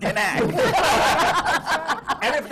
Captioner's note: laughter